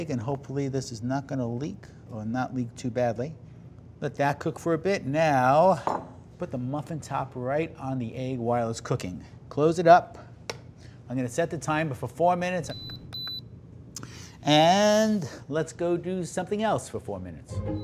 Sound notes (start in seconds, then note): 12.7 device beeps